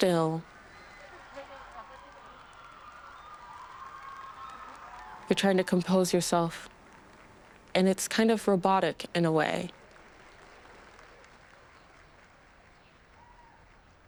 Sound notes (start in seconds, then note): 2.1 cheers and applause